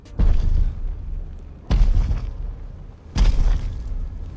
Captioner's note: low thudding